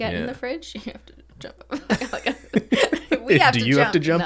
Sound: laughs

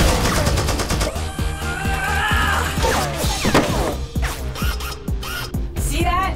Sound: Azalla whirring and grunting

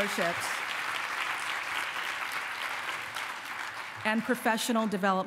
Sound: applause

